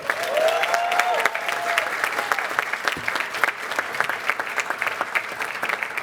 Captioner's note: cheers and applause